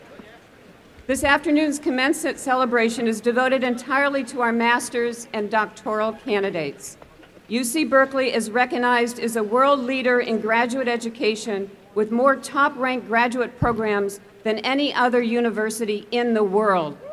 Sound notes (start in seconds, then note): none